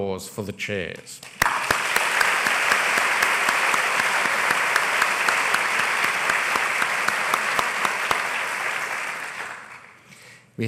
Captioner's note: applause